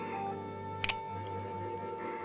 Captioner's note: safety clicks off